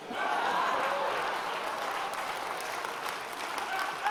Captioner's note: audience applause